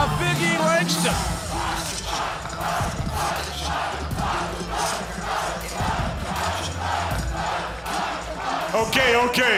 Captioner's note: crowd cheering